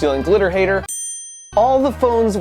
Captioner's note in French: la cloche sonne